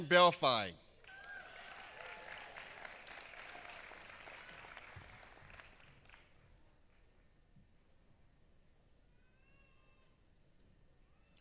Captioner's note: applause